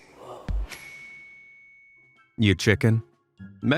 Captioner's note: bell dings